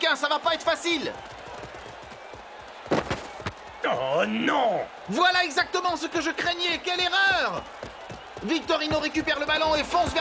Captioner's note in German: beifall